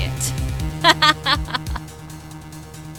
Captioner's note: laughs